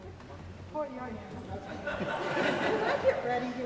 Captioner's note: audience laughing